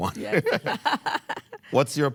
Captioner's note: laughs